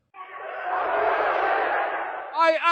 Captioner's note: crowd chanting